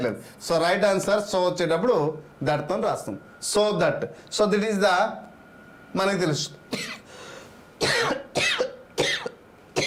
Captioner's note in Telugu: దగ్గు